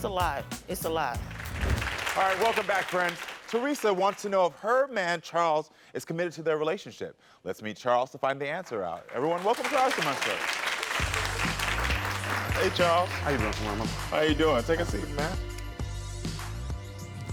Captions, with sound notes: It's a lot. It's a lot. (audience applauds) - Alright, welcome back, friends. Theresa wants to know if her man Charles is committed to their relationship. Let's meet Charles to find the answer out. Everyone, welcome Charles to my show. (audience applauds) Hey, Charles. - How you doing, Karamo? - How you doing? Take a seat, man.